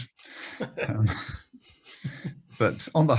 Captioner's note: laughing loudly